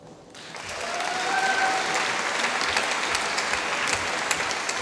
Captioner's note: applause